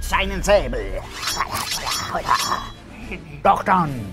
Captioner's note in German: Noch realistischere Piratengeräusche